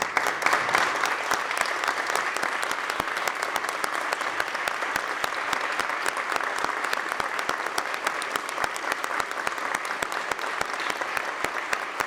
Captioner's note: applause